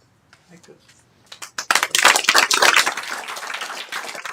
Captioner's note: applause